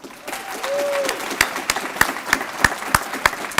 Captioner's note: applause